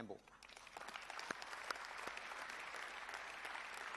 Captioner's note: applause